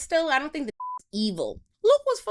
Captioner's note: beep